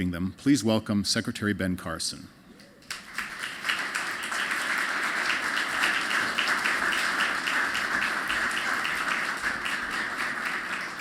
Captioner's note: applause